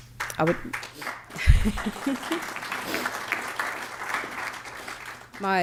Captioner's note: applause